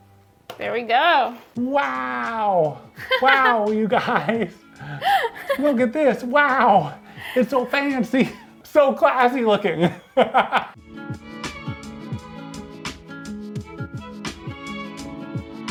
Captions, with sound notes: There we go! Wow! Wow, you guys! Look at this, wow! It's so fancy! So classy looking! (laughs) (lofi music)